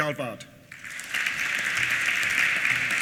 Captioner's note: applause